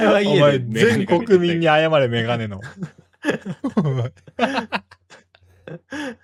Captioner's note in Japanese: 笑い